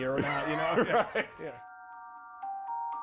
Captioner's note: chuckling